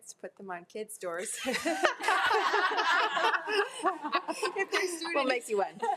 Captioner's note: attendees laughing